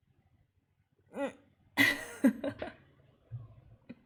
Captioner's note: laughs